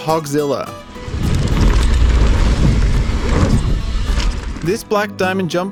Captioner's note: bike scraping